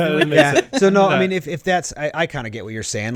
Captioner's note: laughs